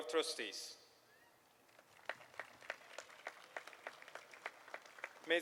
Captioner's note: applause